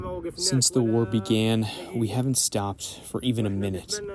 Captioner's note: through translator